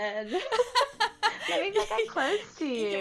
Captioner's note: laughs